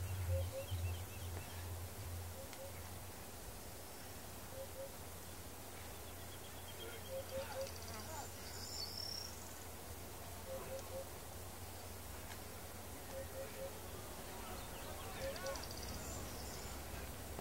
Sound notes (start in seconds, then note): 11.7 birds and insects